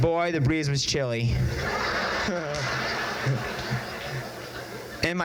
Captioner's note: crowd laughs